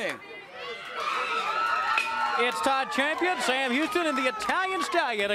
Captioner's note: crowd cheering